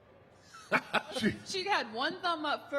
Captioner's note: John Cena laughing